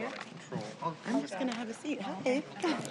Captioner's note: laughter